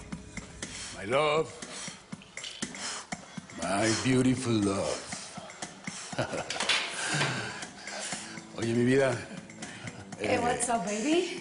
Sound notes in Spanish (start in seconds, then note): 6.1 Risas